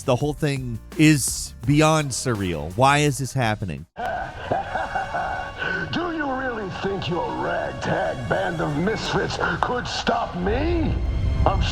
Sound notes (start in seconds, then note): 4.0 Killbane laughs